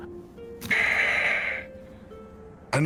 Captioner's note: deep sigh